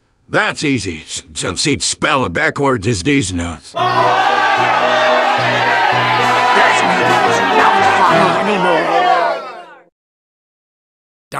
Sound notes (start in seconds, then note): 3.7 unexpected crowd goes apeshit